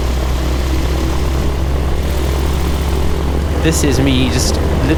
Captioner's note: plane engine rumbling